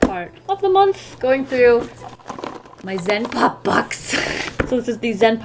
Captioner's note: chortle